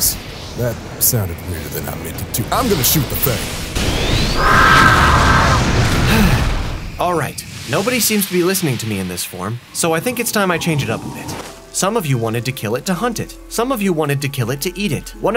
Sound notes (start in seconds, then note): 6.0 sigh